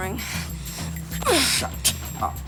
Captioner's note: Jodie groans